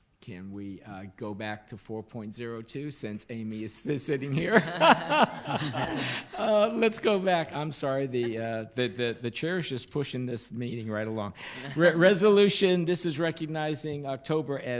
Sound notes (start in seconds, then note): 4.4 laughs